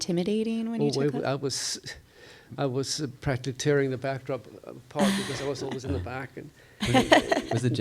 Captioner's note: chuckles